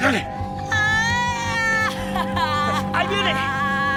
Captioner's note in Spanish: Grito